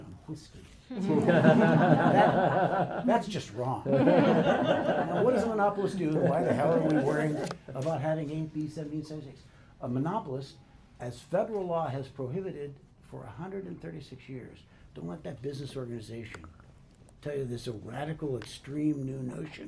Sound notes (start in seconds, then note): 0.9 laughter